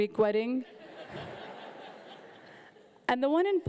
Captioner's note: audience laughing